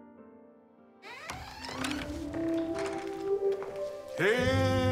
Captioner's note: door squeaking and clattering